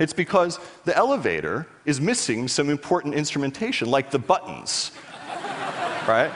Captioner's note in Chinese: 笑聲